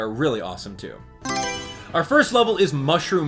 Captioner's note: Mario Selection Sound